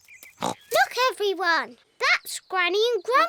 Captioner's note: oinks